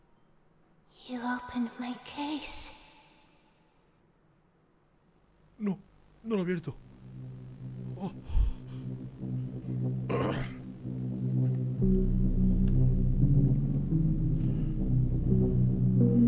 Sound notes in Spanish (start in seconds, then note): 8.0 resopla; 10.1 carraspea